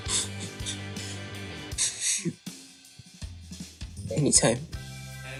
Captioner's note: sniffles